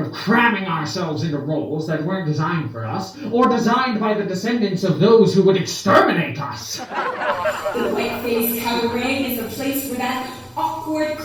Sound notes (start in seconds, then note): 6.7 laughter